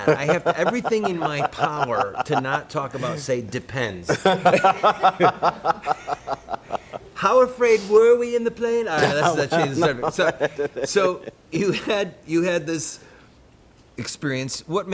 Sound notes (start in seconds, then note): 4.1 laughter